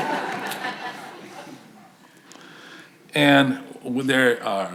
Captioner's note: audience laughs